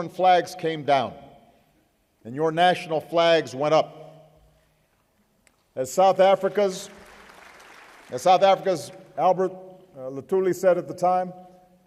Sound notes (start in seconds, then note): 6.5 applause